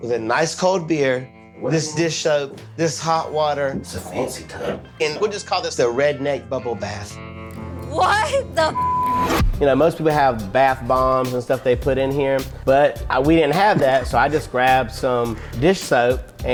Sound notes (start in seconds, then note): 8.6 beep